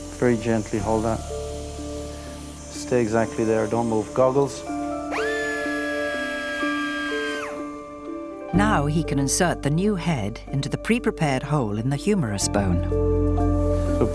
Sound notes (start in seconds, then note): 5.2 surgical instrument humming